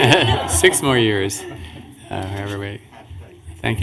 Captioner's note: laughter